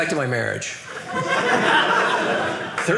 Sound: audience laughing

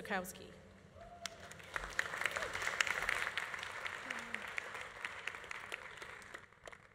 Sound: audience cheering; audience applauding

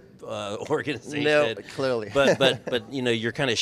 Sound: chuckles

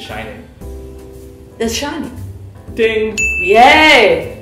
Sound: ding!

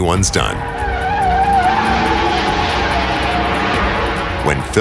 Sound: tires squeal

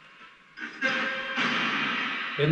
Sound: radio noise echoing

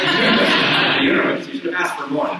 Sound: audience laughs

